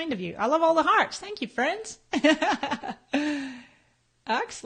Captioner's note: laughs